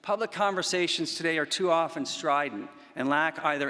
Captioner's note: none